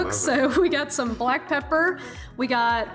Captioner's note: chuckles